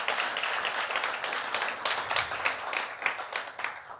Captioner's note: applause